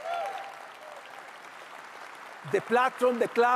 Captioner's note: audience applauds loudly